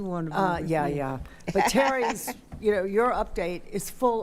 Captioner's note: laughing